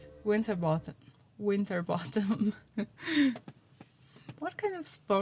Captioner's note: laugh